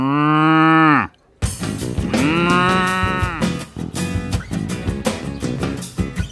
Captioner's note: mooing